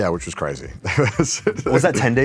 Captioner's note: chuckles